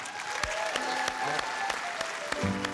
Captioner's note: applause, cheering